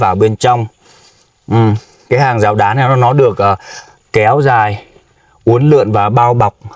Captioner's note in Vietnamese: khịt mũi